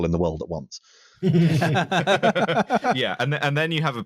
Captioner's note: everyone laughing